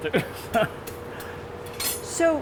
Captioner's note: giggling